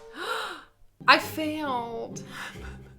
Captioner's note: drum rolls; gasps